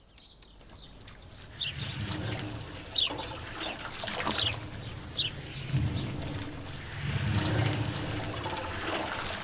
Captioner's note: sloshing water